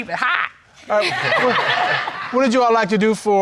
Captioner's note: audience laughing